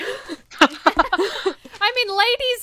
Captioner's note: hosts laugh